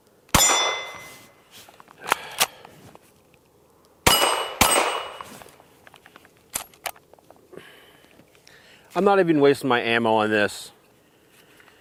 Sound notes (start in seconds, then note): 0.3 gunshot; 0.3 target pings; 2.0 sighs; 4.0 targets pinging; 4.0 gunshots